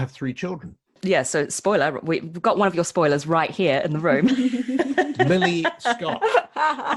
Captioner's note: laughs